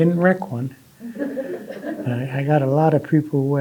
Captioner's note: audience laughing